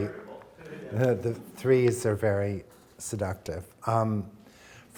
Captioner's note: chuckles